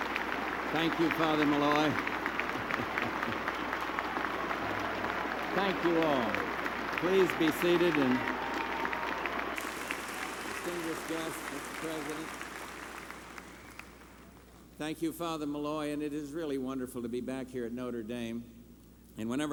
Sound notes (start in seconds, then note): 3.8 applause